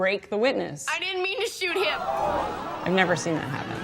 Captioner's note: all gasp